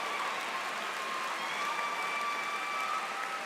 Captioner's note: cheers and Applause